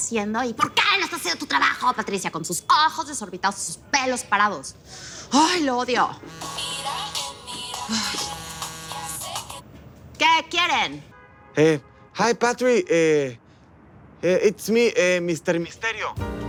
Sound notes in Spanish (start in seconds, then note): 6.2 Suena el celular